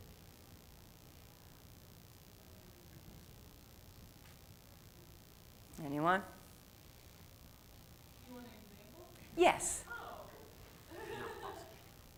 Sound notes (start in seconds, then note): 10.8 laughs